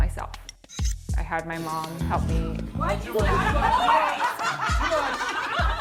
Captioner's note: laughs from offscreen